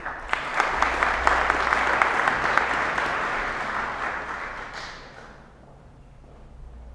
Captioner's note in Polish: oklaski